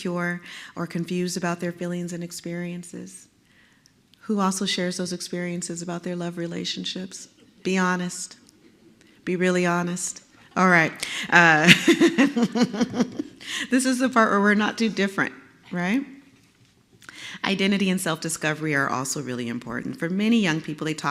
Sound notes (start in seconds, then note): 11.5 laugh